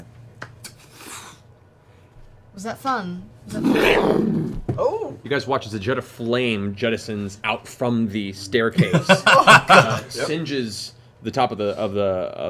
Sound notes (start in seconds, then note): 3.5 roar-of-fire sound; 8.7 laughter